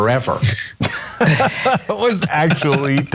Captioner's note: laugh